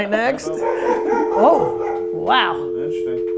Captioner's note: dog barking